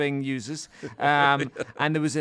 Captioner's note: chuckles